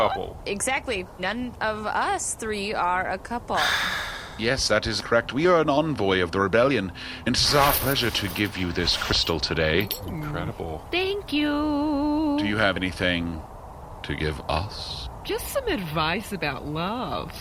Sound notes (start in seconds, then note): 3.5 sighs; 9.7 clinking noises; 11.1 sing-song